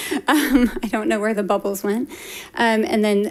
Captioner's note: laughs